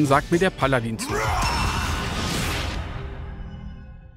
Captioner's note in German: Kriegsschrei, magische Geräusche